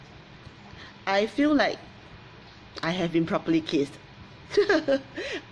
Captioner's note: laughs